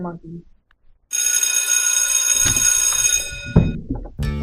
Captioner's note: bell ringing